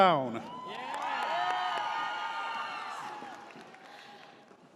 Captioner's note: audience cheers